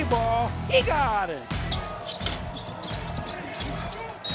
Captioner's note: shoes squeaking